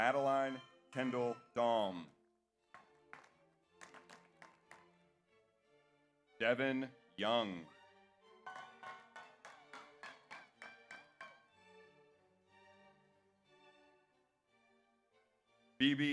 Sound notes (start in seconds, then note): 0.0 audience applauds; 0.0 audience cheers; 3.7 audience applauds; 8.4 audience applauds; 8.5 audience cheers